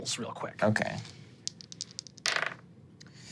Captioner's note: dice rolling